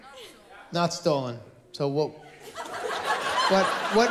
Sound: laughter

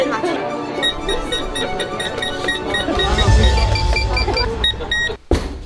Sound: beep beep beep

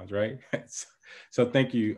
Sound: laughing

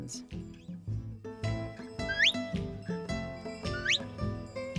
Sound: whistling

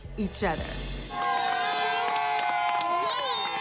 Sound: cheering

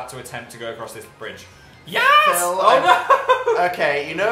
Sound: laughs

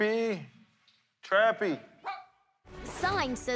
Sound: Trappy barks

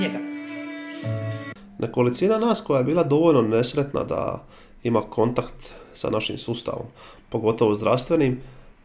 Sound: Croatian

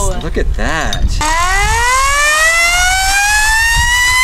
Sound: siren

